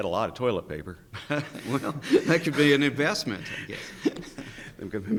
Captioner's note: chuckles